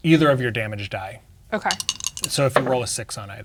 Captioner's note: dice rattling; dice rolling